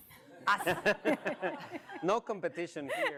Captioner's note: all laugh